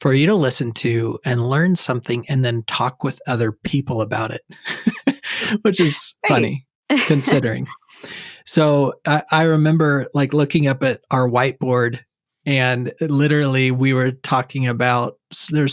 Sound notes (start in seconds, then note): 3.8 loughs